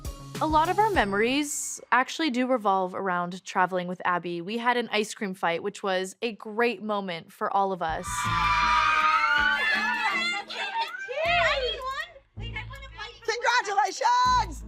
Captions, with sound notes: A lot of our memories actually do revolve around traveling with Abby. We had an ice cream fight which was a great moment for all of us. [girls screaming] [giddy chatter] -I need one. -Congratulations!